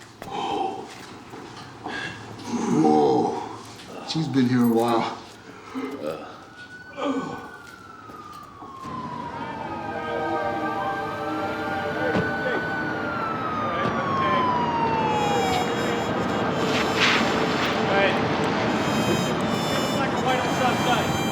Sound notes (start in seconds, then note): 5.4 struggles to breathe; 9.0 siren wailing; 13.6 indistinct chatter; 16.9 indistinct chatter